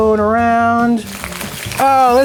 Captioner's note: oil sizzling